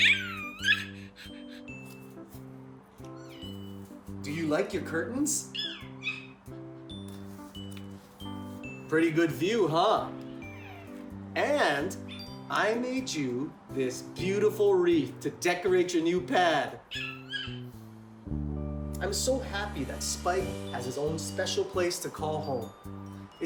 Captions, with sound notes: (Spike yipping) Do you like your curtains? (Spike yipping) Pretty good view, huh? And I made you this beautiful wreath to decorate your new pad. (Spike yipping) I'm so happy that Spike has a special place to call home.